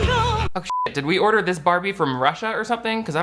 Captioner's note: sings; beep